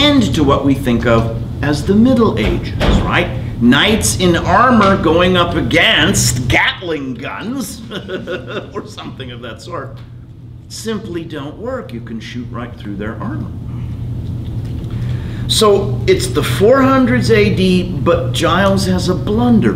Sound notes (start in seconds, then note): 7.6 laughs